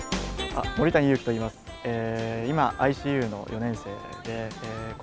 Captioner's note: speaks in a foreign language